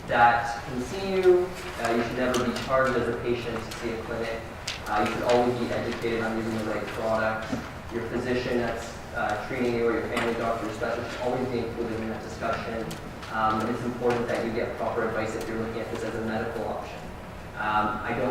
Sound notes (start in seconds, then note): none